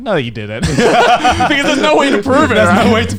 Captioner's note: laughing